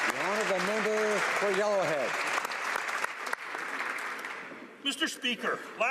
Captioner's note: applause